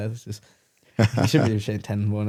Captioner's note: laughs